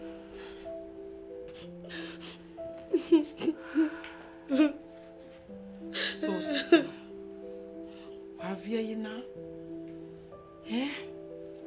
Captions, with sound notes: (crying) Eseosa... Why are you crying? eeh..